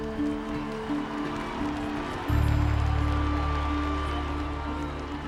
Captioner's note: crowd cheering